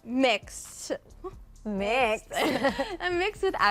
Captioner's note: laughter